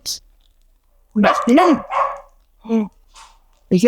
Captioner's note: gasps